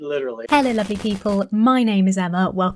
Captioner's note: static sounds